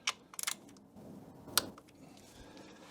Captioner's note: click